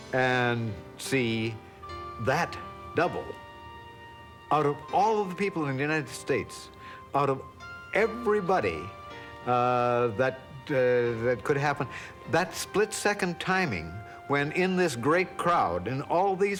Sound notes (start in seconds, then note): none